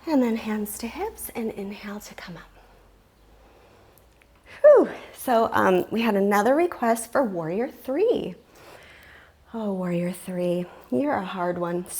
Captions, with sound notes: And then hands to hips, and inhale to come up. (sighs) So we had another request for warrior three. Oh, warrior three, you are a hard one.